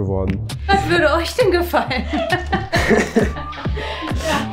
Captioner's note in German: Lachen; Lockere Musik